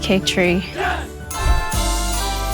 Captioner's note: crowd; joyful music